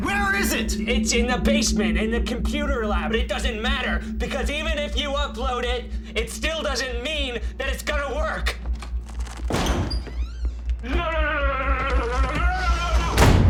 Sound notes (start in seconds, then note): 8.6 door opening